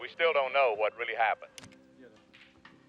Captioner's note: tv turns off